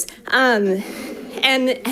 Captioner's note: audience laughing